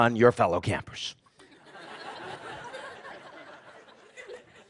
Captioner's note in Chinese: 笑聲